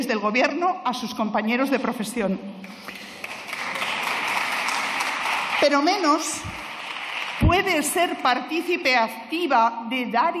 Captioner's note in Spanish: Aplausos